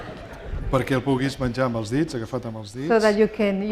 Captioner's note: laughter; speaking spanish